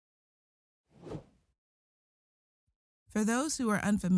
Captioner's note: transition whooshing